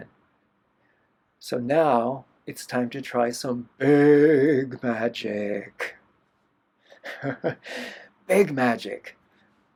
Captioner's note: laughter